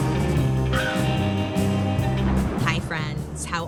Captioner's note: crows cawing; thunder rumbling